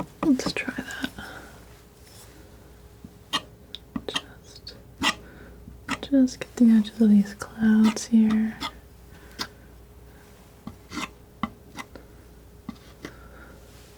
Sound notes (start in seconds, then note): 4.0 scratching; 10.6 scratching; 12.6 scratching